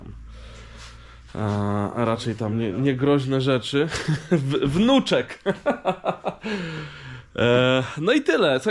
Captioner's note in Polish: śmiech